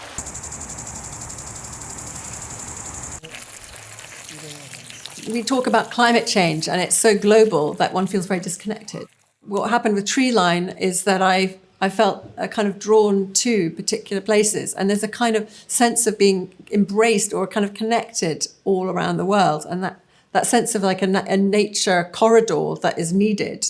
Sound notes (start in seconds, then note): 0.0 water sprinkling; 0.2 sprinkler whirring; 3.3 water splashing